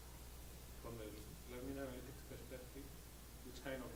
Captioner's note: voiceover